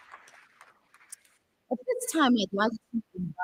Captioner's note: applause